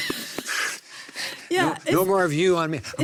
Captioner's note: laughs